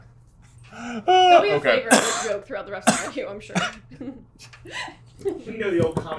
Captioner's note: laughs